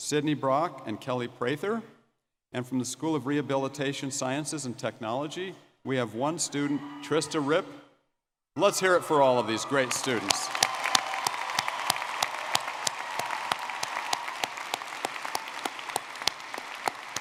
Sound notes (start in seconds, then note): 10.9 audience cheering and clapping